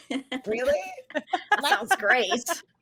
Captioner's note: all laughing